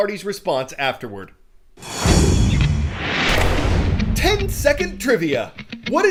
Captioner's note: voice-over